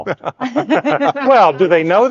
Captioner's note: speakers laughing